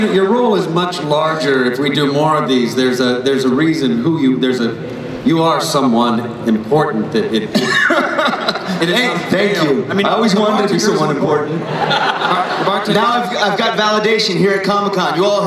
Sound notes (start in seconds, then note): 7.5 laughs; 11.5 laughter